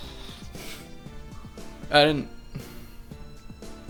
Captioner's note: panting